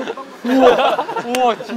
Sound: laughing

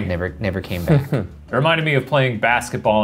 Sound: laughs

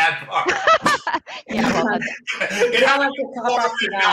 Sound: laughs

